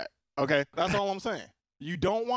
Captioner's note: laughing